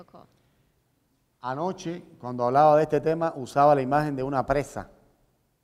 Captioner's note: speaking in Spanish